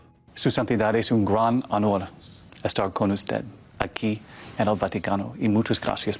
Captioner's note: speaking foreign language